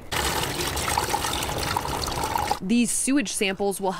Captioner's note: water trickling